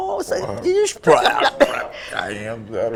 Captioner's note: imitates falling sounds: < /i> <i>“plah! plah!”